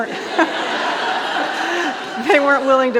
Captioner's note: audience laughing